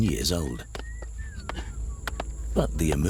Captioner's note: workers whistling